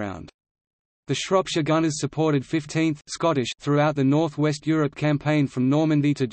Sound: Scottish

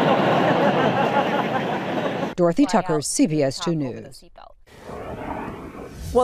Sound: laughter

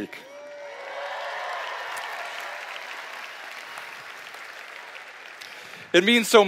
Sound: applause

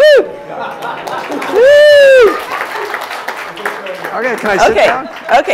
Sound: applause

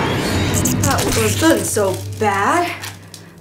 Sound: shudders

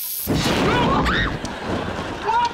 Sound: screaming

